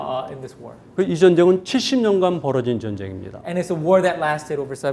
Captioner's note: speaking in Korean